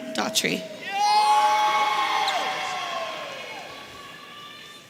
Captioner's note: audience cheering